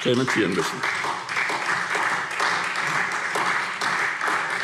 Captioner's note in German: Beifall SPD